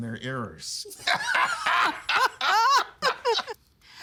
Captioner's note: laughing